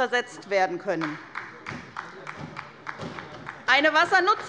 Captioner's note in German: Beifall bei Abgeordneten der SPD